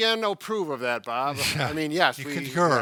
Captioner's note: chuckles